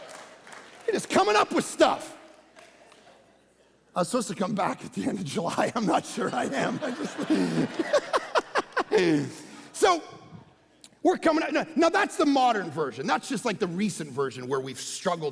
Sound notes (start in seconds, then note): 0.0 congregation laughing; 8.6 laughing